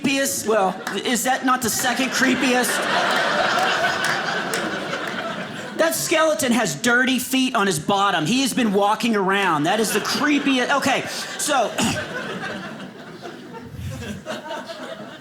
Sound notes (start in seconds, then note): 3.1 audience laughing